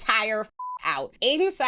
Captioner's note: beep